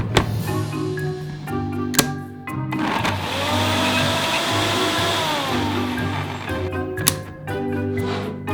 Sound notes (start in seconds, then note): 2.8 blender running